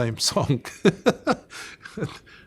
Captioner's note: laughs